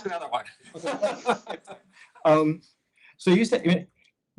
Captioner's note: laughter